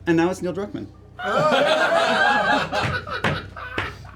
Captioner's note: laughter